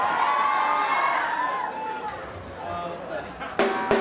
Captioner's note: audience cheering